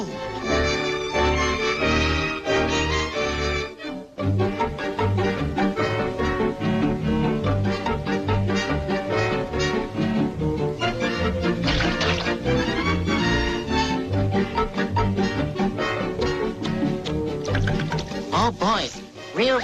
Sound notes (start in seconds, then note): 0.1 energetic music; 11.6 mustard splashing; 12.9 energetic music